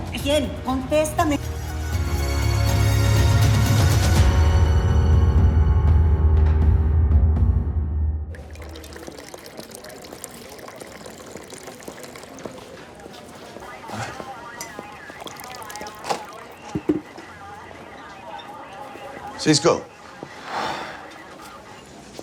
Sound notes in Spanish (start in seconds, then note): 8.3 Sonido al verter el café; 11.4 Sonidos de comunicación radial